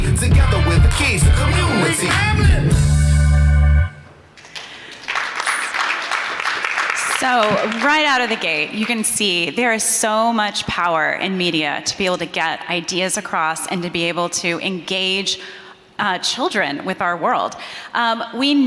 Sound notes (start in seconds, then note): 4.3 audience applauding